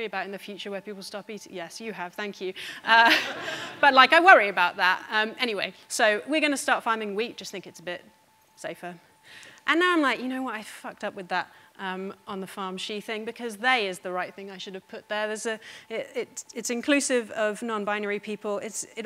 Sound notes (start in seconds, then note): 3.0 audience laughing